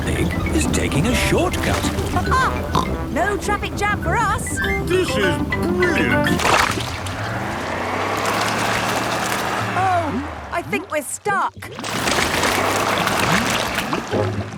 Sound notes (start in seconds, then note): 7.0 sloshing, tires whirring; 12.2 whirring